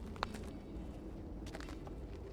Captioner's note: footsteps